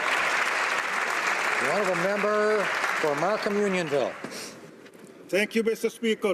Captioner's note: applause